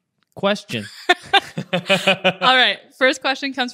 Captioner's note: both laughing